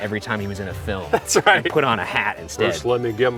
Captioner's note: chuckles